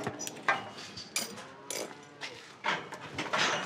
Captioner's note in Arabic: موو الماشية